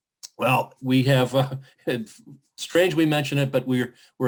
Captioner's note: chuckling